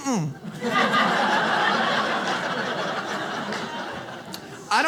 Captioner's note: audience laughs